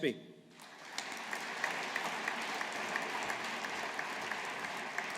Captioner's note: audience applauding